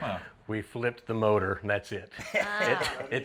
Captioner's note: chuckles